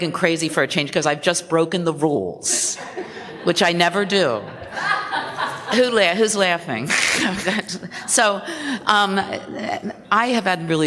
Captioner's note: laughter